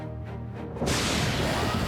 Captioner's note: thunder